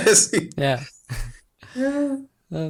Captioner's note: laughs